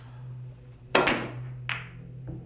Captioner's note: tense music; ball bangs